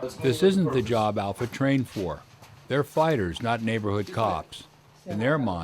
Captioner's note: voiceover